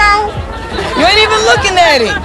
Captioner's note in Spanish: riendo